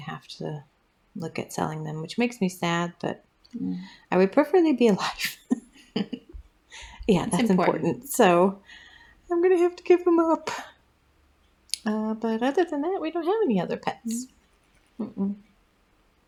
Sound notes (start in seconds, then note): 5.1 laugh